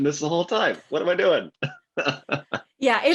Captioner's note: laughs